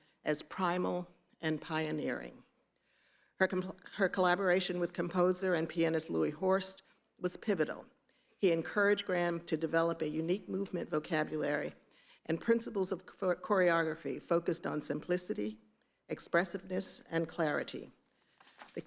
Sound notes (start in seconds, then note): none